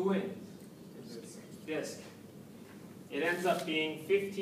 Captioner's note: background comments